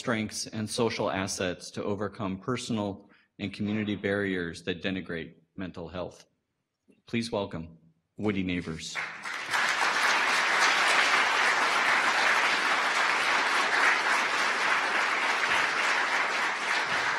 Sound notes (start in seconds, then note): 8.9 audience applause